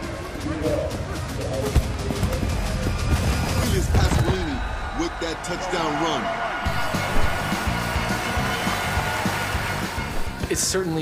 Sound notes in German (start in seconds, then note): 0.2 Spannungsvolle Klänge; 6.7 Lässige Rockmusik; 8.4 Stadionlärm; 9.9 englisch